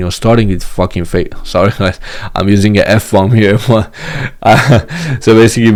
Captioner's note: chuckles